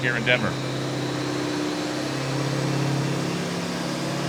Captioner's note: engine revving